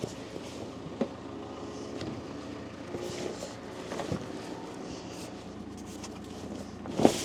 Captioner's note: construction vehicle humming continues